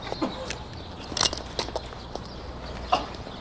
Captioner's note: gun cocking